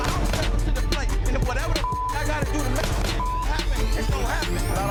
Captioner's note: beep